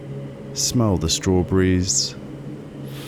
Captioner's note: inhale